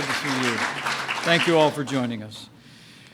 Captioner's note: applause